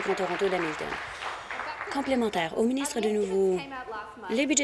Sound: applause

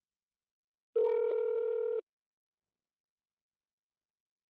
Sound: phone ringing

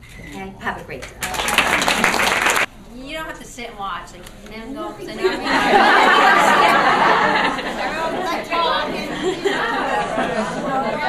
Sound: laughter

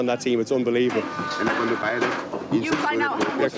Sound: construction noise drowns out speaker

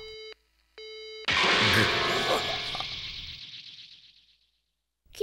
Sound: crash

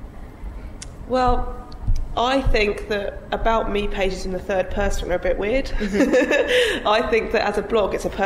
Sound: giggles

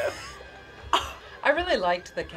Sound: laughs

